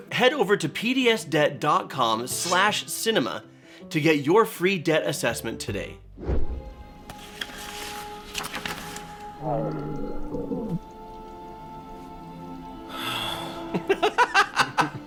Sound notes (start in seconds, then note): 9.4 hungry belly rumbles; 12.9 sighs